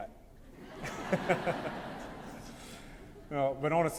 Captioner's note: laughter